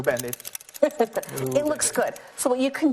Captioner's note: laughs